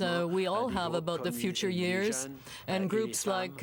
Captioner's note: speaking French